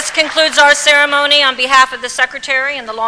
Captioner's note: applause